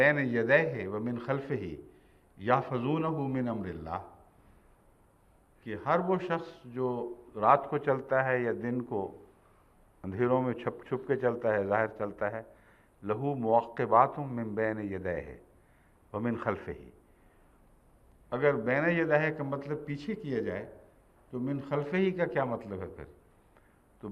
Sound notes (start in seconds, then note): 13.1 Arabic